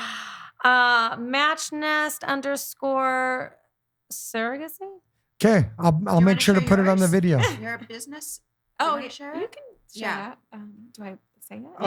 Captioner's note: laughing